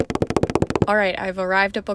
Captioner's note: feet Running Sound